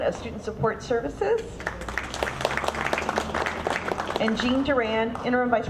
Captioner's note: audience clapping